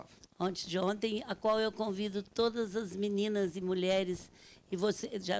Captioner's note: speaking Portuguese